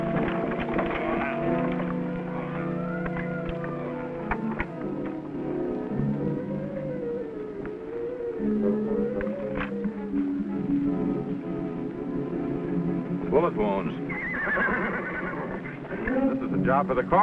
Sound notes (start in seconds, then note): 0.0 wagon wheels rumbling; 14.0 horse neighing